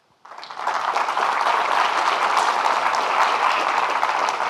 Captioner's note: audience clapping